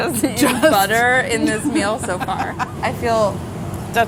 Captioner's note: laughter